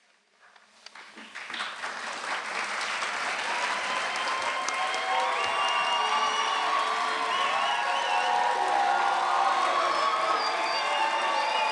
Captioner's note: applause